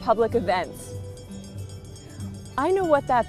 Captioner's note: bell ringing